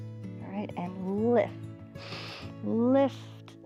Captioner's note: inhales